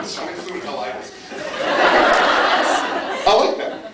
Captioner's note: laughing; laughs